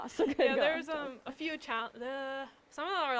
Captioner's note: laughs